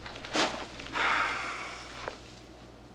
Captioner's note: Tom sighs